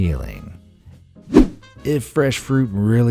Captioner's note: whoosh